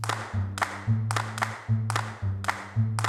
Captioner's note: audience Applauding